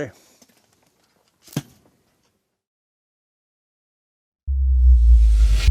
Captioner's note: book cover slams; soft music